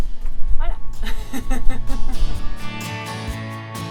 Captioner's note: laughs